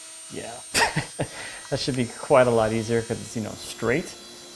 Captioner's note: laughing